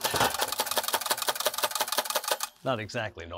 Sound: loud typewriter clanking

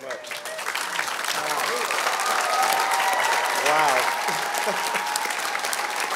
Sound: applause; laughs

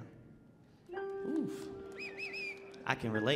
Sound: audience applauding

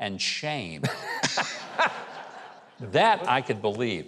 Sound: laughs lightly

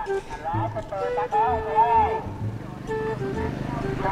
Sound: vendor's noise echoing

